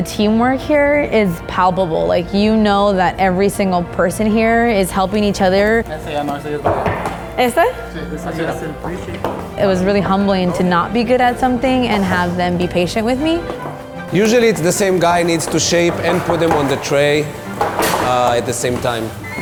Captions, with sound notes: The teamwork here is palpable. Like, you know that every single person here is helping each other. (speaking foreign language) It was really humbling to not be good at something and have them be patient with me. - Usually it's the same guy needs to shape and put them on the tray at the same time.